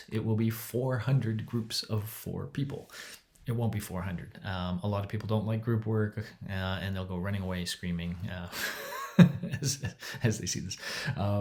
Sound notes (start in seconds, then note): 8.6 laughs